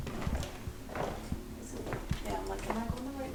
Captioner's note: footsteps; eerie music